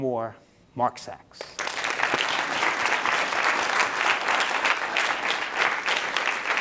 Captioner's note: applause